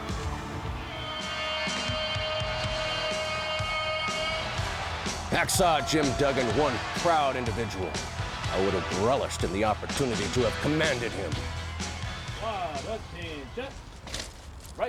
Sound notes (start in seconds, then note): 1.3 horn blaring